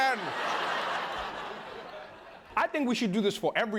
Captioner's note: laughter